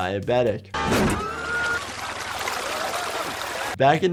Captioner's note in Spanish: líquido chapoteando